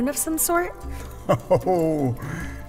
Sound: laughs

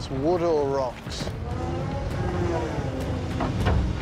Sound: hydraulics whirring

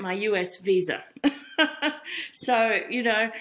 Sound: laughs

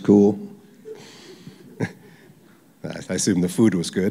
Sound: laughter

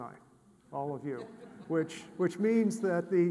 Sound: audience laughs

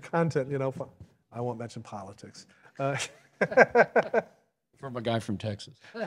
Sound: laughs

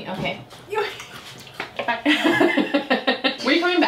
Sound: laughs

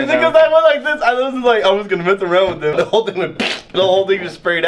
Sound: fart noise

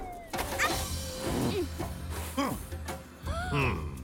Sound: shouting; gasping; laughing

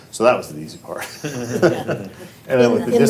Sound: all laughing

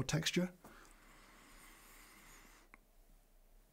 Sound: inhales

